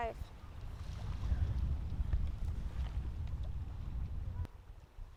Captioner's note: water whirling